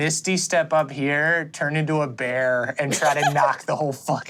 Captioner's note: giggles